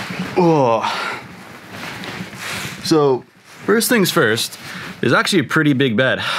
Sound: groans

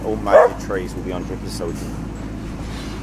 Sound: dog barking

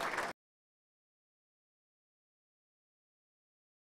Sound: crowd clapping

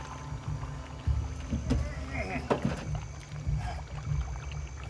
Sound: groaning

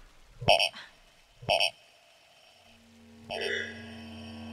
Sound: doll squealing

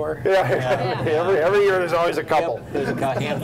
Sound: laughs

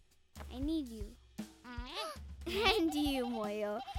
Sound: Moyo bleating

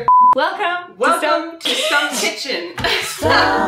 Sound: laughs

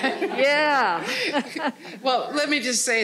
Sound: all laughing

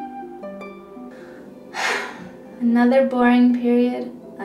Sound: sigh

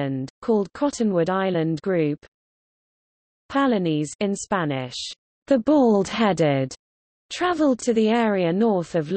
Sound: in Spanish

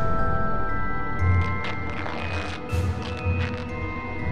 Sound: ripping

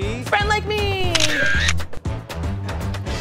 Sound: camera shutter

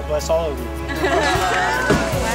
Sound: laughing

